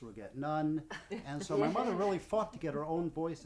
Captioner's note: laughing